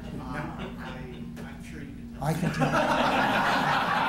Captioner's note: laughter